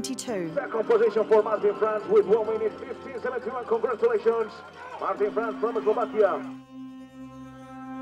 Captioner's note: announcer speaking